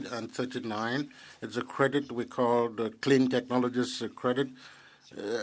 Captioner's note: speaking French